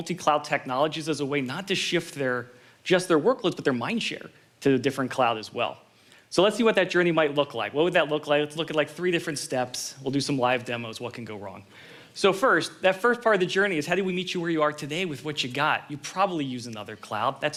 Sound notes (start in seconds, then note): none